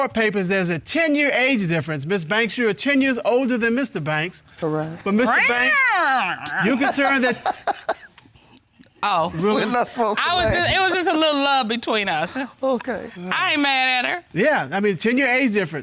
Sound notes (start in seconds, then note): 5.4 imitates snarling; 6.4 laughing